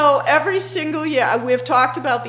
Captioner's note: laughing